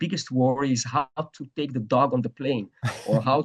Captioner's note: laughs